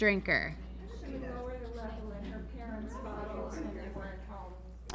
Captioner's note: class mumbling